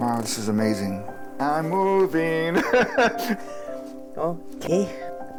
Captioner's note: chuckles